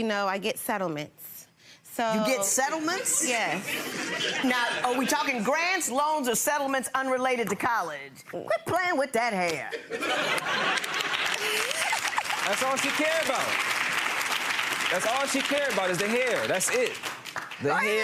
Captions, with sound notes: and you know, I get settlements so-- - You get settlements? - Yes. (audience laughing) - Now are we talking grants, loans, or settlements unrelated to college? Quit playing with that hair. (audience clapping) - That's all she care about!